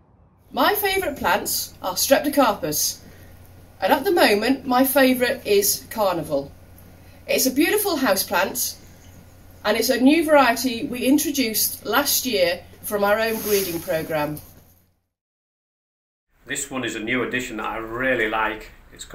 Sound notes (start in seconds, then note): 13.0 plant leaves rustling